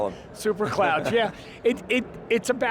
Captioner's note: laughs